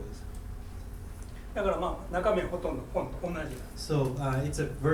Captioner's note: speaking in foreign language